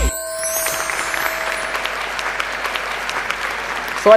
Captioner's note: applause